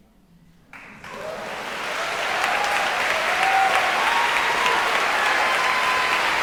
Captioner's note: audience cheering and applauding